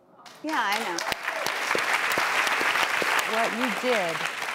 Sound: audience applause

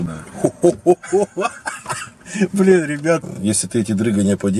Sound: laughing

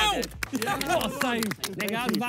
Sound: players clap

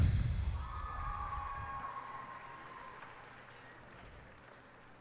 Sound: cheers and applause

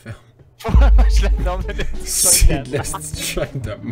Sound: laughs while speaking

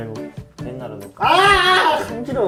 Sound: screaming comes out in salon

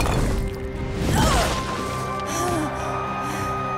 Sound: groaning

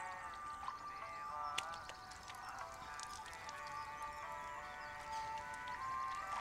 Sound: water splashing

